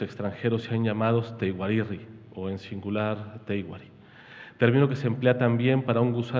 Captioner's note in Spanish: habla en wixárika